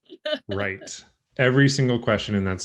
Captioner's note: laughs